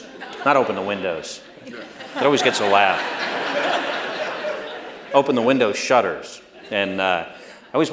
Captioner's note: laughter